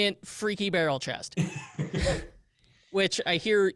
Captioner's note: laughs